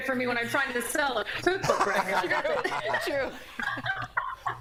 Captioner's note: laughter